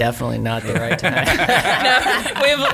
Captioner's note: laughing